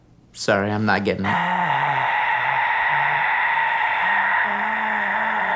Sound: sigh

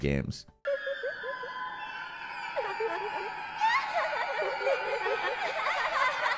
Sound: eerie mysterious music; children laughing

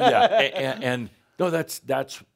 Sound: laughs

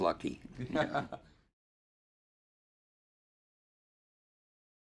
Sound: interviewer chuckles

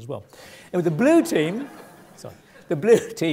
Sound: laugh

